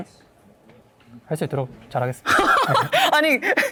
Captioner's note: laughs